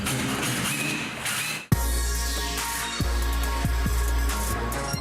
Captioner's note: drilling; upbeat electronic music